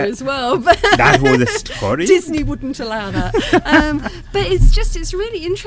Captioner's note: laughing